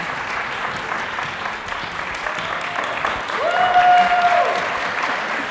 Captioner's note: audience cheering